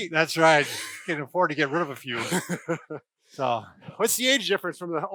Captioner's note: laughs